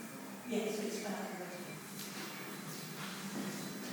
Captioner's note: echoing voices; distant birdsong